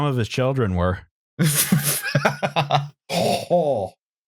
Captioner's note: sputters, laughs